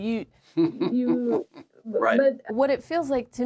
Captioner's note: chuckles